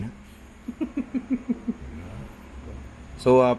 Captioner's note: laughs